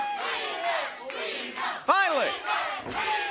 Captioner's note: crowd cheering